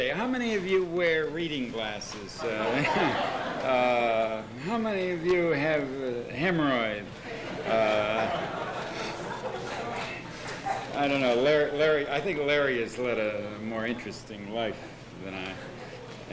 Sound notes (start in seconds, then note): 2.5 laughter; 7.4 laughter